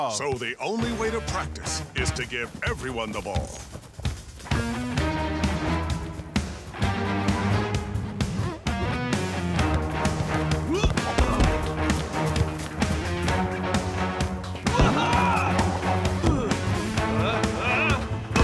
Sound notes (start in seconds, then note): 4.5 tense music; 10.6 grunting; 14.6 grunting; 18.2 shouting